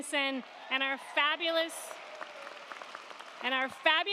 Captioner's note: crowd cheering